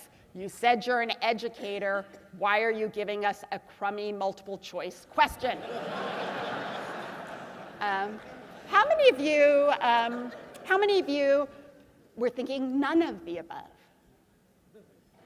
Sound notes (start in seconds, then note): 5.6 laugh